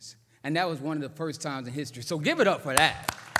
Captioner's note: applause